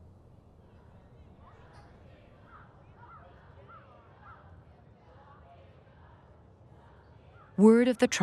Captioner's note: people shouting in background